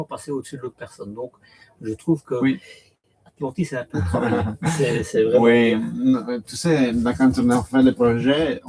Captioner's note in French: rires